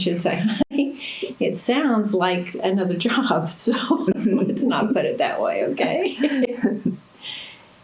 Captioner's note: laughter